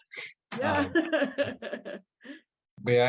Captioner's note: chuckles